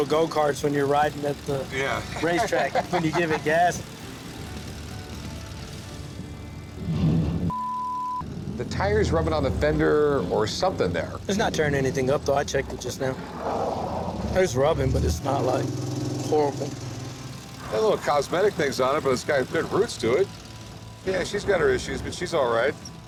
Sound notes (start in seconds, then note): 1.6 laughs; 6.1 car rumbles